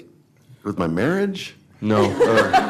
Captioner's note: laughter